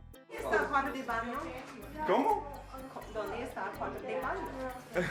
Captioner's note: speaking Spanish